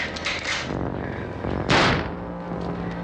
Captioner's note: gunshot